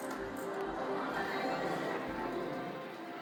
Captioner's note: crowd murmuring